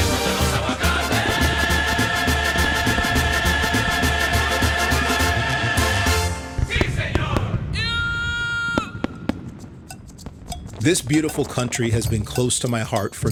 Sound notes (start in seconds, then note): 0.0 upbeat music in Spanish; 7.0 fireworks popping